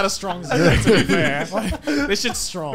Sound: laughing

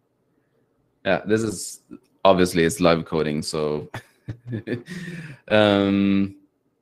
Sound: laughs

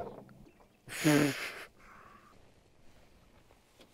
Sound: laughs

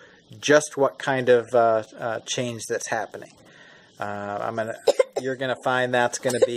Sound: coughing

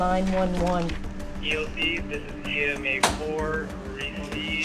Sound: voiceover

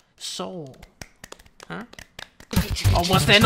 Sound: claps again

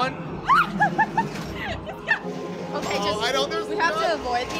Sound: laughs

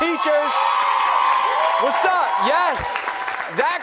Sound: cheers and applause

